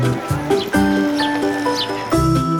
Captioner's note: birds chirping